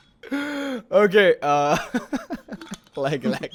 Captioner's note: laughing